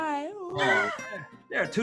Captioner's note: laughing